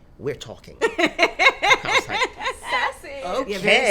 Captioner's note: laughing